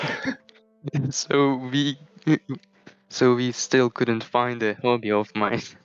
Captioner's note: laughs